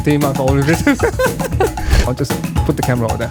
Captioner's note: laughing